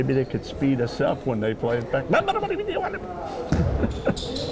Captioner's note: laughing; speaking jibberish